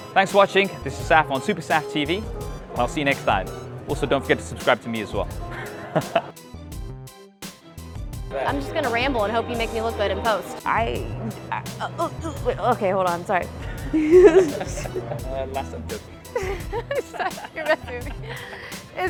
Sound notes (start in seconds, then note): 13.9 laughter